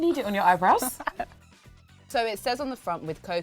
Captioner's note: giggles